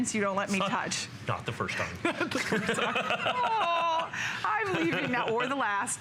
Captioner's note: laughter